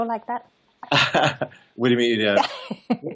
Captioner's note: laughs